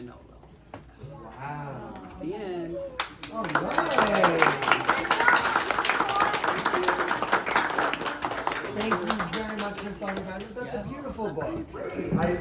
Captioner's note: applause